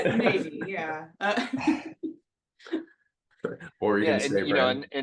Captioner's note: laugh